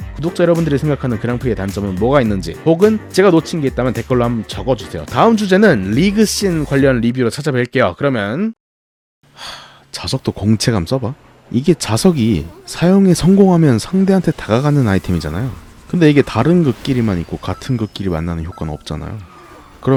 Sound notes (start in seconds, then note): 9.3 sigh